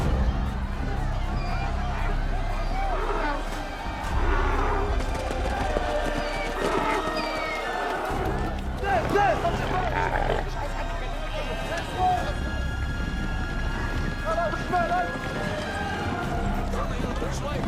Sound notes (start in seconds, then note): 0.0 panicked chattering; 6.5 camels braying; 8.8 shouting in arabic